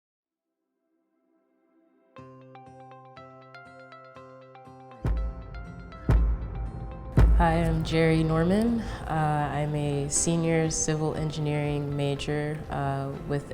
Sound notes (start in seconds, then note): 2.4 bright music; 5.2 sound explodes